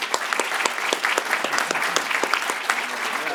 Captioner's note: claps